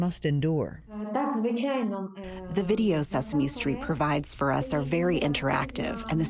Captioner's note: through translator